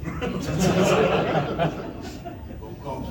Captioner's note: laughter